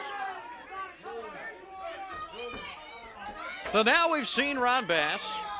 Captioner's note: crowd chatter